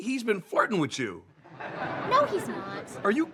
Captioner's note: audience laughing